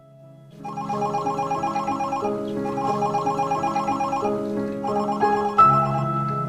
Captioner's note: dramatic piano music; phone rings